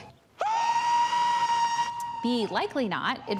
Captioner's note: screams